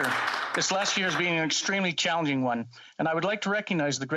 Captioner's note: applause